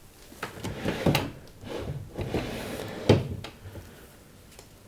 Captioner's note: opening and closing drawers